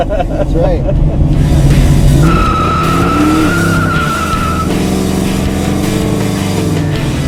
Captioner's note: laughs; tires squeal; energetic rock music